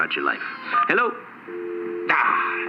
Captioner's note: dial tone